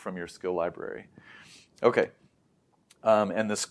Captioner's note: inhales; lips smack